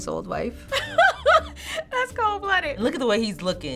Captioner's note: laughing